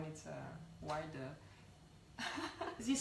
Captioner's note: chuckles